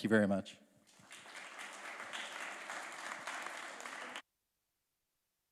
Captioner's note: applause